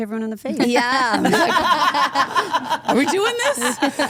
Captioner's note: group laughs